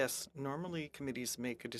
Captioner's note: speaking French